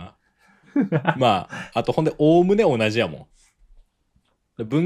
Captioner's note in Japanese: 笑い